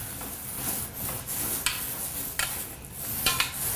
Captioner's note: sound of paint rolling on wall